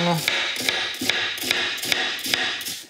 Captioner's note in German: Messer hackt laut auf Brett